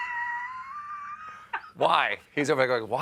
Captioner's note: laughter